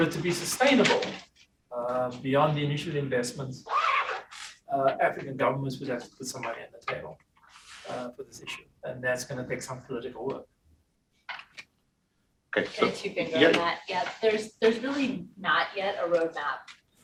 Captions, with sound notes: For it to be sustainable (object clatters) beyond the initial investments, (zipper scratching) African governments would have to put somebody on the table for this issue, and that's gonna take some political work. - Okay. (faintly speaking) - There's really not yet a roadmap